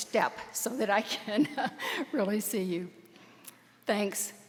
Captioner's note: laughs